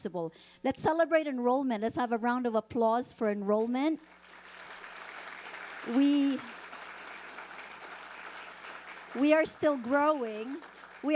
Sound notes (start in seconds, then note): 4.0 audience applauding